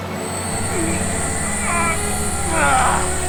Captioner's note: groaning